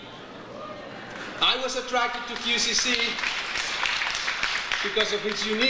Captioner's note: audience cheers; audience applauds